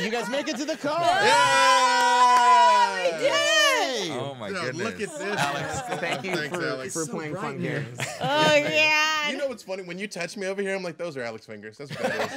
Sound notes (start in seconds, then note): 0.0 group screaming; 1.7 group cheering